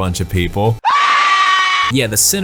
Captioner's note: screams